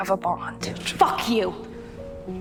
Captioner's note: shouting